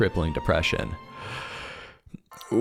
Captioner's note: deep breathe